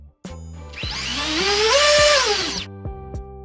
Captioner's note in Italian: rumore del motore